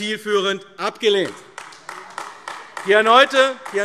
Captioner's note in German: Beifall AfD